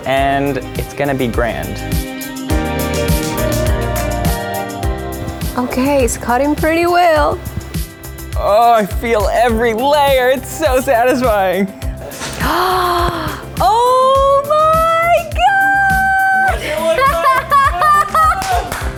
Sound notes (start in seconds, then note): 11.8 gasps; 16.2 laughs